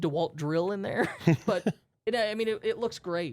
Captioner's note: both softly chuckling